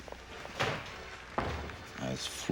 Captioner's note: door closes